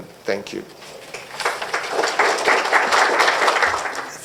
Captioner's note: applause